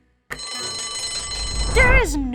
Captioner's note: bell rings